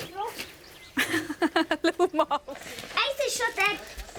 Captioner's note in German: Lachend